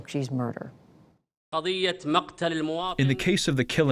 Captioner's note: through translator